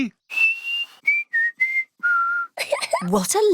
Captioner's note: whistles a tune; giggles